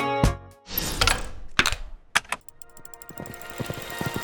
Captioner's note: objects clacking; gentle music; hoofbeats thumping